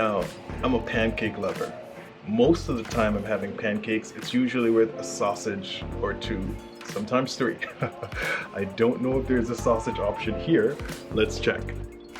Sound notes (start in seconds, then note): 7.6 laughs; 11.9 soft orchestral music